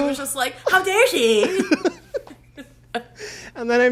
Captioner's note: both laugh